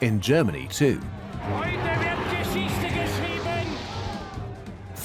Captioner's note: speaking German